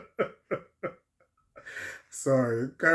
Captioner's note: laughter